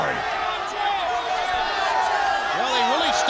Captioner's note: crowd chatter